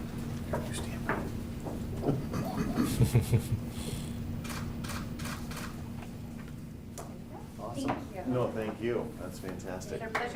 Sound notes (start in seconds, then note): 4.4 camera clicking